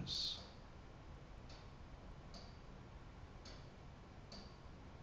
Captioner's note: clock ticking